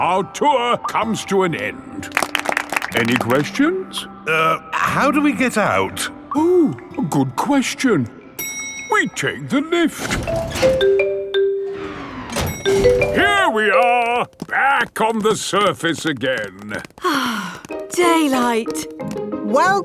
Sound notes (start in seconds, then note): 2.0 all clapping; 10.0 elevator dings; 17.0 sighs